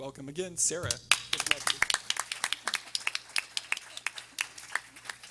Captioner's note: everyone applauding